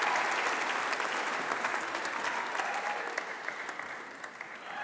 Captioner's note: applause